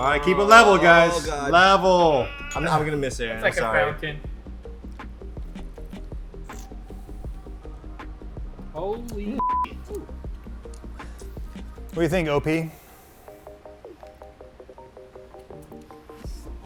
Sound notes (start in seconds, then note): 6.8 sips cocktail